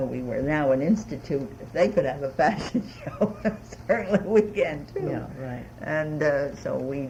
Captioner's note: laughs